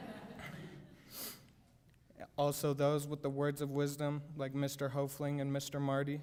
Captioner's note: laughter